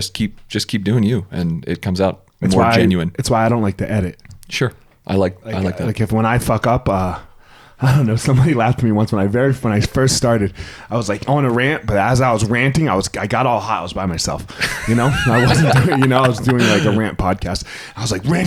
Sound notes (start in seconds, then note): 14.6 laughs